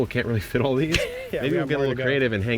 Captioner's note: laughing